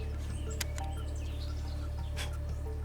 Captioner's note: blowing